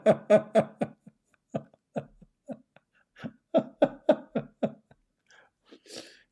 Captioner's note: Ketawa